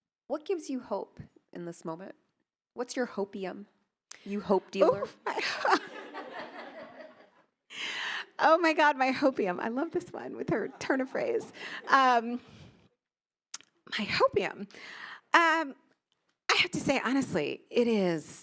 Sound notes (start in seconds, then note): 4.8 laughing; 4.8 attendees laughing